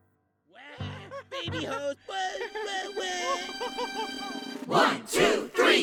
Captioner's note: balloon chuckles